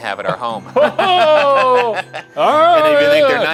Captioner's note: laughing